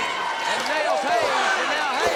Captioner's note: audience cheers